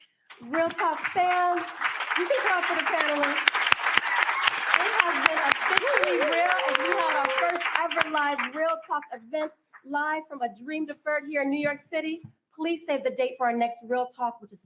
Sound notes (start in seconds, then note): 3.8 applause